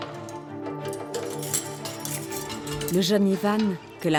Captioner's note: keys clinking; lock clicking